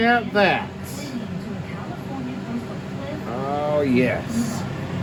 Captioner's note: "21Alive News at 5" plays in background